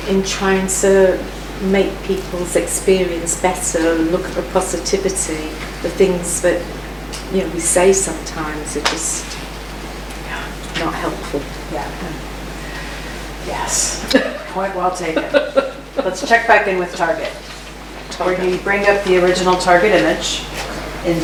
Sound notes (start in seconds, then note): 15.5 laughs